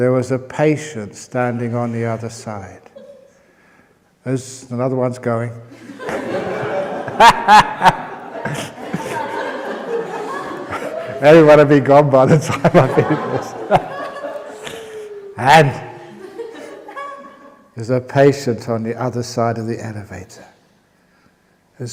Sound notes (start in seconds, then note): 5.7 laughter; 14.7 laughter